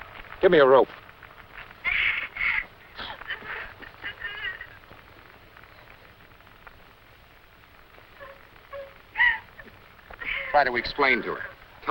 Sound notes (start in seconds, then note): 1.3 sobbing